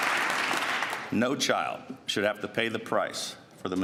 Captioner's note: applause